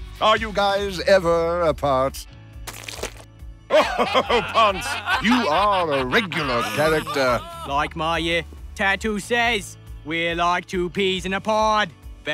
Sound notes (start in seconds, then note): 2.6 tomato squishes; 3.7 laughing